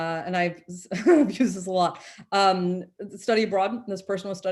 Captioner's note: chuckles